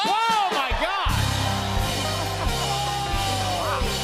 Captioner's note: cheers and applause